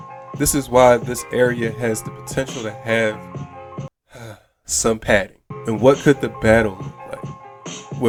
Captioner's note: sigh